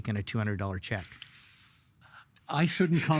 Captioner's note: chuckling